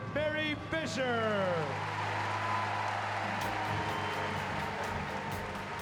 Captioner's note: cheering